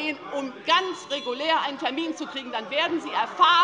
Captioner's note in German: Unruhe - Glockenzeichen des Präsidenten